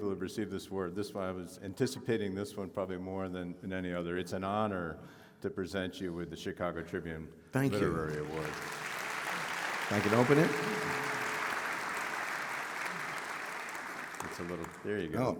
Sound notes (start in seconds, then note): 8.6 audience applauding